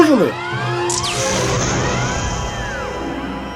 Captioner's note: sparks & explodes